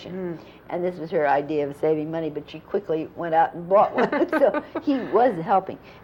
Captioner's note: laughter